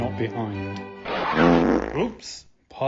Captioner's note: fart noise